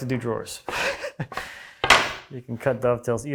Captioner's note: chuckling; plank on desk clunking